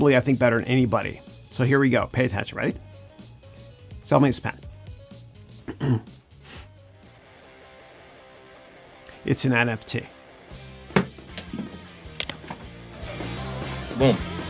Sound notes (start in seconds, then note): 5.6 clears throat